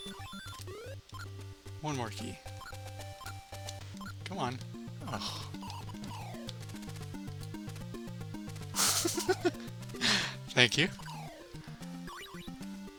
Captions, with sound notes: 1 more key. Come on! Ugh. [laughs at the clip URL] Thank you!